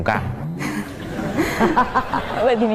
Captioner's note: laugh